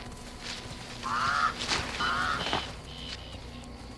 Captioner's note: birds squawking